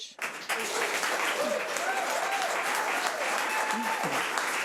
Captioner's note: audience applause